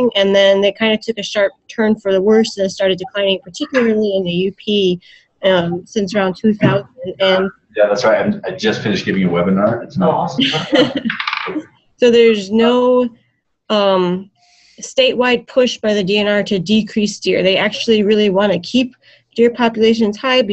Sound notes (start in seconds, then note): 10.3 laughter